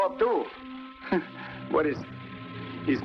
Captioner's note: chuckles